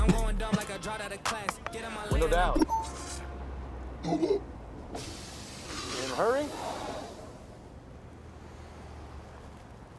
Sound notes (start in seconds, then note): 5.0 exhales